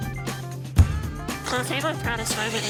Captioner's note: ball bangs